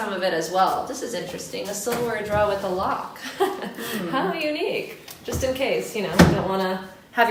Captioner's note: laughing